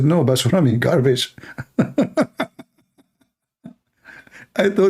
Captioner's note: Ketawa